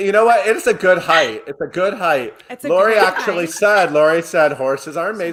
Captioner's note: laughs